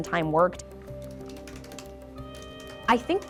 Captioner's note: keyboard clicks